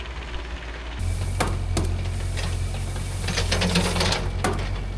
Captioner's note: drill whirring